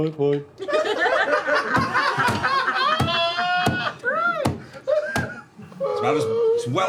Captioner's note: laughter